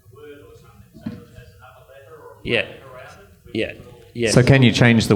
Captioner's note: murmurs